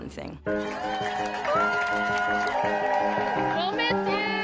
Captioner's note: cheers